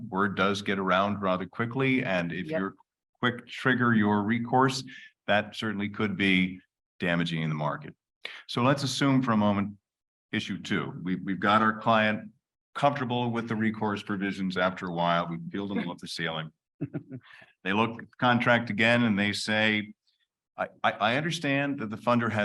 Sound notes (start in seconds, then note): 16.8 chuckles